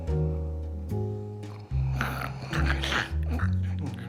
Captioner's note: gentle jazz music; Mark snoring